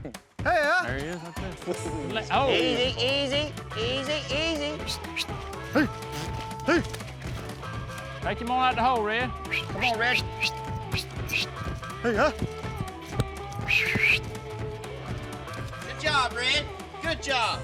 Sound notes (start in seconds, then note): 4.8 whistling; 9.5 calling